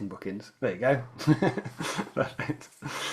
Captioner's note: laughs